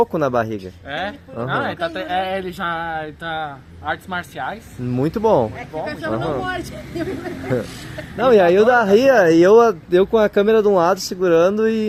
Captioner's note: laughs